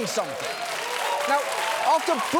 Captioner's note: audience cheering, applauding